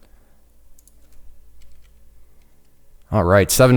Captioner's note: typing